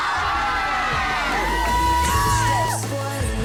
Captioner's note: crowd cheers